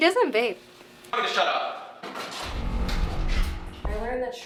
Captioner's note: falls